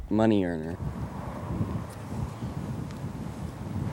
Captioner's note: wind blowing